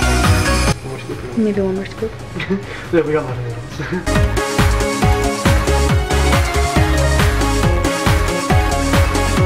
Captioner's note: laugh